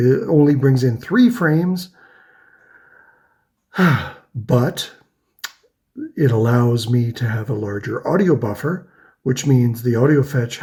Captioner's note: huffs